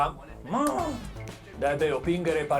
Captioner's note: scoffs